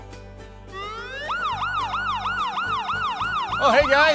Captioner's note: police Siren Whirs